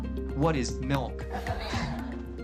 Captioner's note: laughter